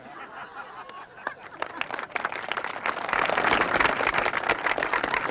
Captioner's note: audience laughs; audience applauds